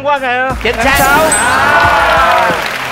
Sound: clapping

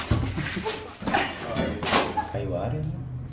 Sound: laughing

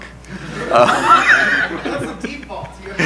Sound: crowd laughing

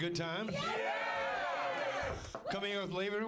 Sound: audience cheering

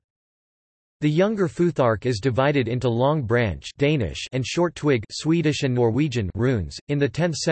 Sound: Danish

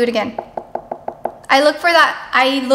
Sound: knocks

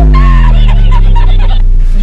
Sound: almost cracking up

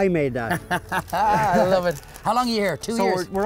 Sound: laughs

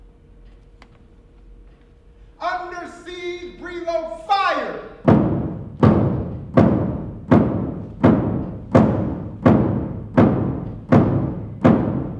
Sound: pounds table 15 times

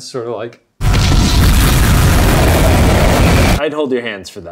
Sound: explosion

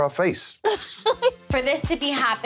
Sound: woman laughs

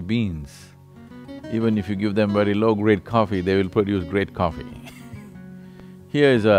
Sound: laughs

